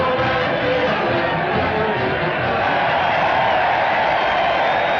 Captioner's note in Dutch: gejuich